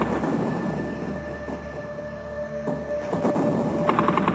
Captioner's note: artillery firing